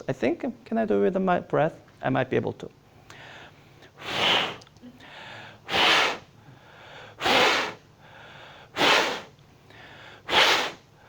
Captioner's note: rhythmic breathing on mass